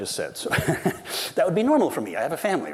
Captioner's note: laughs